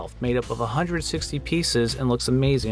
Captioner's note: none